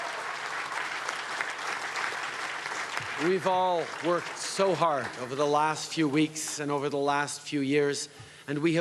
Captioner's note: cheering and Applause